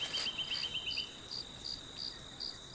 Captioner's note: SOUND: crickets sounds and whistles